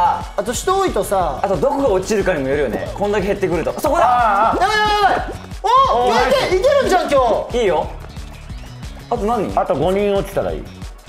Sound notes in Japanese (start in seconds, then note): none